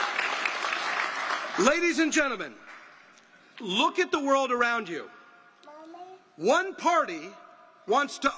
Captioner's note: applause